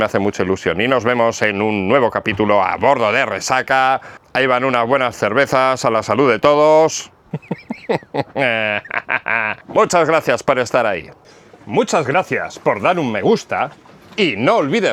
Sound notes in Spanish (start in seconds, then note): 7.2 risas